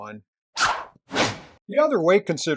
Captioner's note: swish! Swoosh!